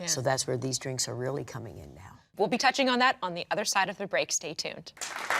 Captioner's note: audience applauding